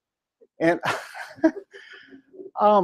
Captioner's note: laughter